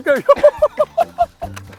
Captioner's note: laughter